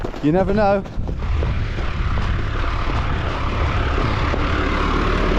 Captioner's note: vehicle revving